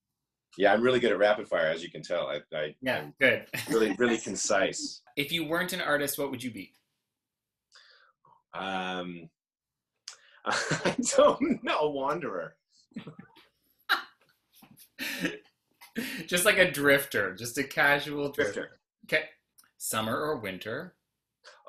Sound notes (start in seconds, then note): 10.5 laughs; 12.9 giggles & laughs